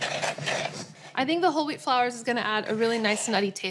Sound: scraping and mixing

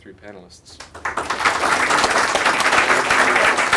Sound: applause

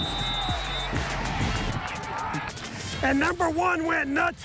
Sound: nats of whistles blowin

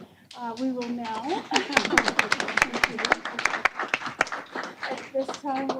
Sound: applause

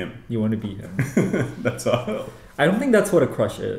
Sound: laughs

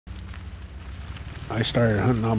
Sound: rain

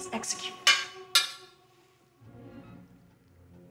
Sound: bullet clangs

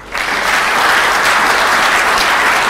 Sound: applause

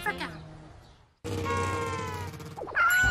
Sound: matter-of-factly; horn honking

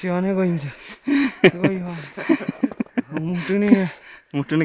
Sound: laughter

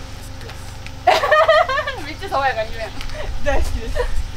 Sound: laugh

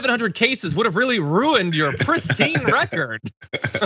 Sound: laugh

